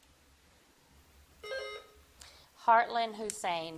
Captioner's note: bell dings